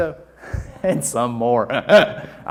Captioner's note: audience murmuring